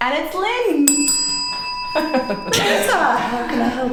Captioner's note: bell ringing